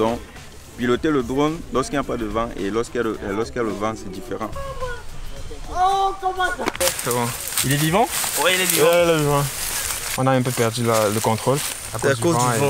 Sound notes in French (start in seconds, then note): 4.4 exclamation